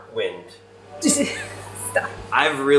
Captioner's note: laughing